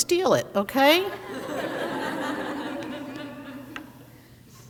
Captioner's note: crowd laughs